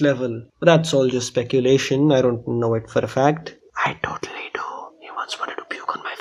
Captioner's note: whispering